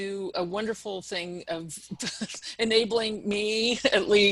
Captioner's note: laughter